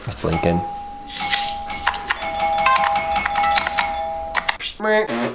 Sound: doorbell ringing repeatedly

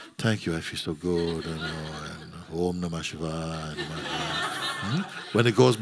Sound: laughter

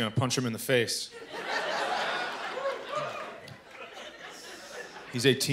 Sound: laughter

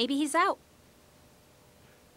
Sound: none

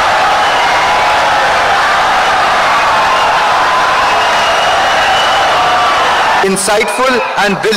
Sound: wild applause and cheering for 17 seconds

